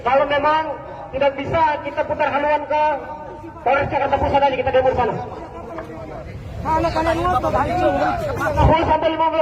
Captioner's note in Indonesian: tertawa